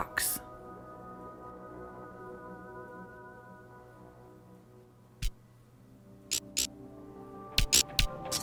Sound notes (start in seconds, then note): 6.3 buzzing